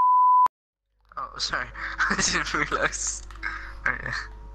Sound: laughing

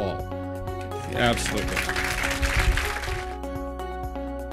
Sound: applause

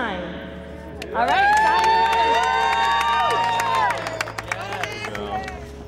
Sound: cheers and applause

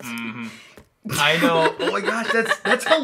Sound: laughs

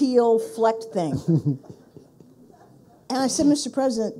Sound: people laughing

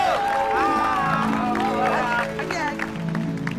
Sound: cheering

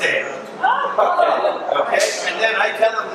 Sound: audience laughs

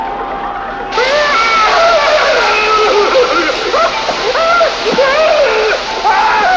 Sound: suspenseful music; Philby screaming

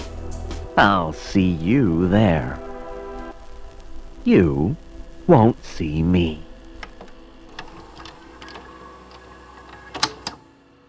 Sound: VHS tape click. Silence

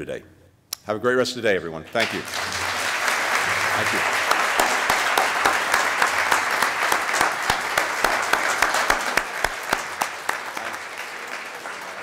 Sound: applause

